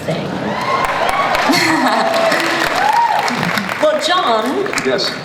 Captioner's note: audience cheers